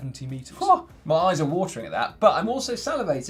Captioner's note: exclaims in surprise